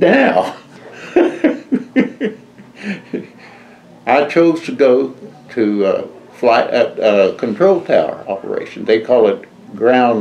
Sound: laughs

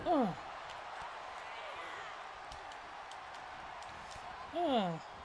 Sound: applause

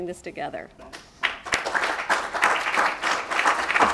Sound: applause

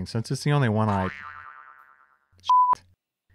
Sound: spring boings; beep

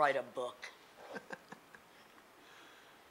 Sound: laughing

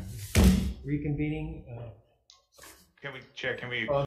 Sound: gavel thudding

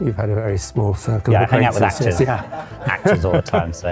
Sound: laughter

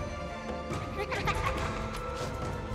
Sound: laughing

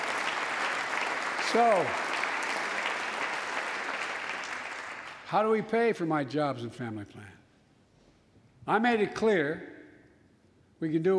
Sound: applause

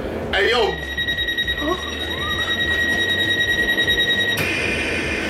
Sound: train doors beeping

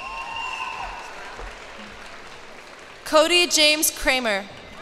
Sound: cheers and applause

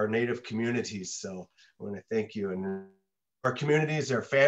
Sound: audio distorts

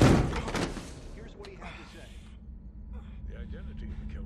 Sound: groaning

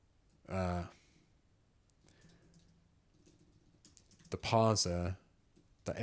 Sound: silence

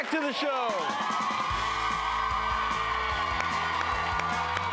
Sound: applause

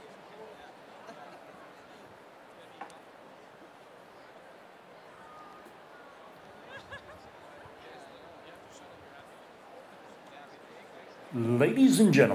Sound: laugh

